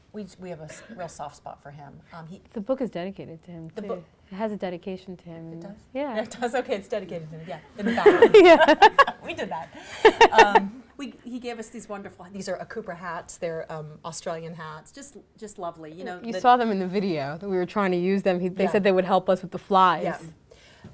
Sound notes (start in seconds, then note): 7.8 laughing